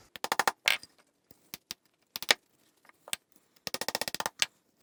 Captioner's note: rapid tapping